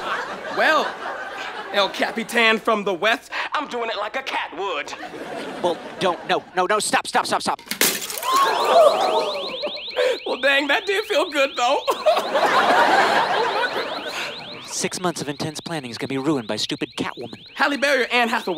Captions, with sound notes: - Well, El Capitán from the Wetht, I'm doing it like a cat would. - Whoa, don't. No, no, stop. Stop, stop, stop. [glass shatters] [alarm] - Well, dang. That did feel good though. [laughs] Oh my goodness. - Six months of intense planning is going to be ruined by stupid Catwoman. - Halle Berry or Anne Hathaway?